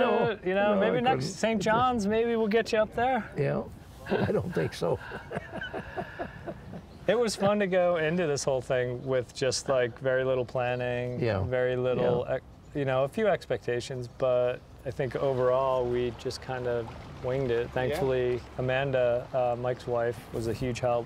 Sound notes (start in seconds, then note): 4.0 laughs